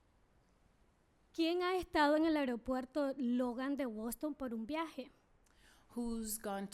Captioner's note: speaking spanish